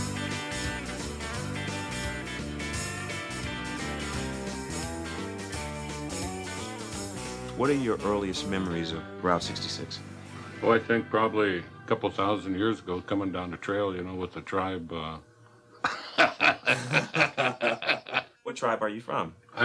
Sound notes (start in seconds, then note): 15.8 laughing